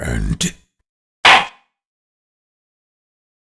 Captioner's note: gavel slams!